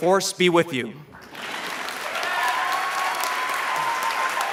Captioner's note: applause